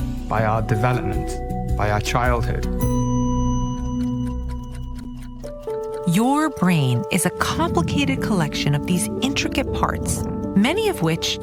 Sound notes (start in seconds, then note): 4.0 clock ticking